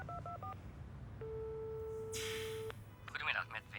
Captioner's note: line rings